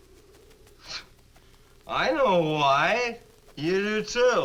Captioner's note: scoffs